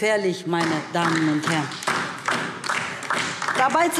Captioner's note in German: Beifall DIE LINKE